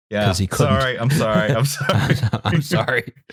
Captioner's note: laughing; laughs